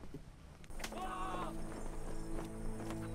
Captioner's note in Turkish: Bağırma sesleri